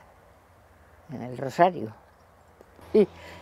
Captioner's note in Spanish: Ríe, sonido de motor